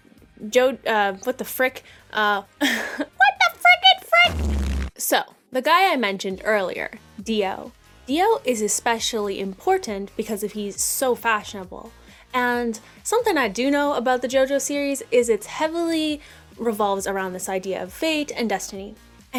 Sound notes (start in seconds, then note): 2.5 laughs; 4.2 silly jojo buzz sound